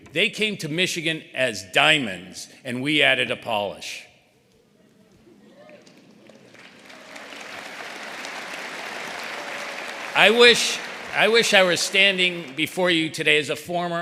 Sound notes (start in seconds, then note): 5.5 applause